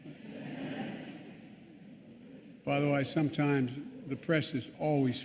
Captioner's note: laughter